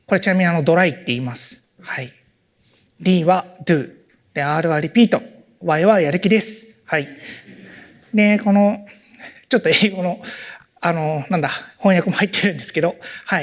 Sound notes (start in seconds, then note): 7.3 laughter; 10.1 chuckles